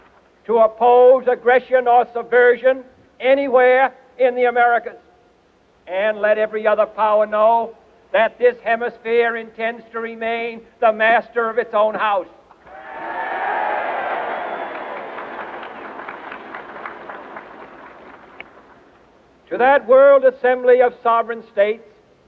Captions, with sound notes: to oppose aggression or subversion anywhere in the Americas. And let every other power know that this Hemisphere intends to remain the master of its own house. (audience cheering) To that world assembly of sovereign states,